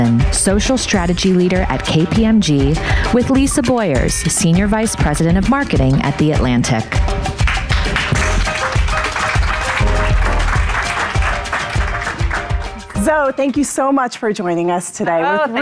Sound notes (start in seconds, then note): 7.4 audience applauding; 7.7 upbeat music